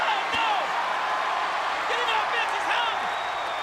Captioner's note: audience cheers